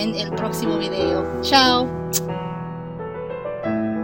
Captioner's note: kissy sounds